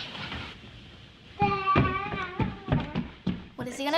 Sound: kid babbles

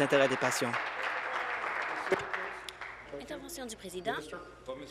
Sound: applause

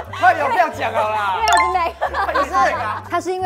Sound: playful

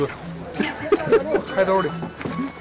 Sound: hahahaha

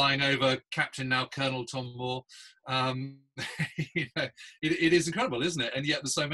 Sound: laughs

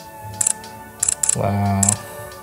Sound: camera clicking

